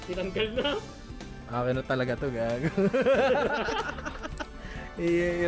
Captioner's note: laughter